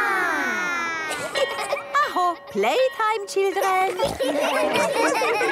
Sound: school bell

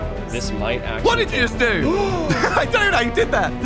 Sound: gasps

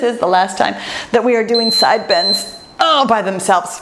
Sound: timer beeps

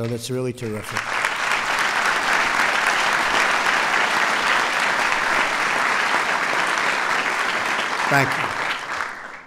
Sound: applause

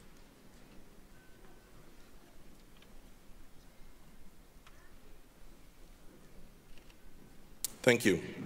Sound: silence

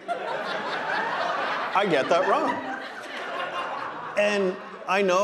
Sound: audience laughing

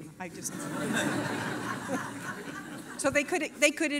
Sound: laughter

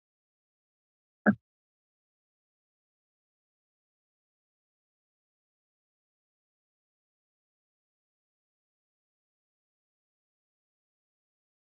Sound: silence

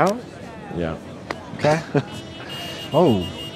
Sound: honking

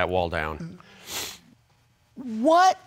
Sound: sniffs

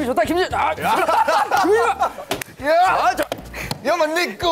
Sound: laugh

